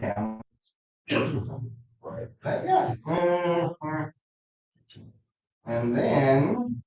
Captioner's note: groans